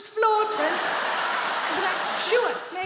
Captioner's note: audience laughing